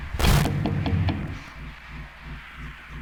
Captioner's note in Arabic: يطرق الباب